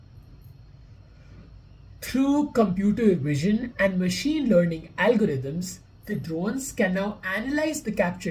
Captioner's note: voice-over